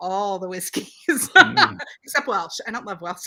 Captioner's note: laughs